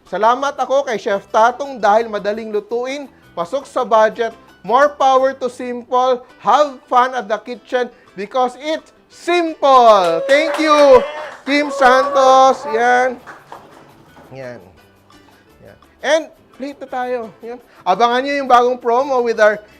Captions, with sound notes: I thank Chef Tatung because it's easy to cook, -- and suits our budget. More power to SIMPOL. Have fun at the kitchen, because its -- SIMPOL! " [Applause][Cheers] Thank you! [Applause][Cheers] Kim Santos -- [Applause][Cheers] there -- [Applause] [Applause] There. And -- we'll still be plating. Watch out for our new promo with our --